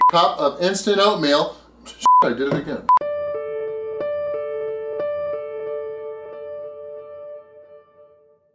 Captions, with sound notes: Cup of instant oatmeal. (beep) I did it again. (pleasant music)